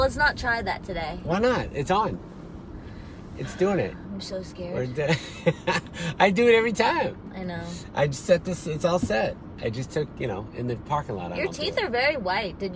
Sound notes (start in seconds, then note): 5.8 laughs